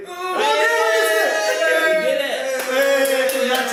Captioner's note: cheering